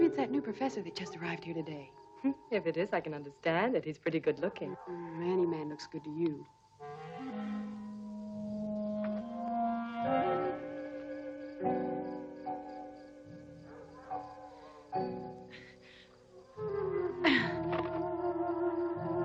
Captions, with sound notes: Maybe it's that new professor that just arrived here today. - If it is, I can understand it, he's pretty good looking. - Any man looks good to you. (light dramatic music) (wolves howling)